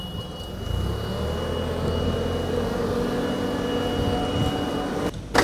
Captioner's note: fork truck motor humming